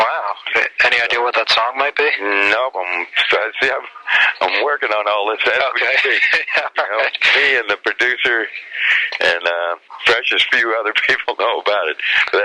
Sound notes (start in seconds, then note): 5.3 laughs